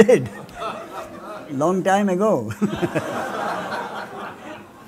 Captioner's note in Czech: smích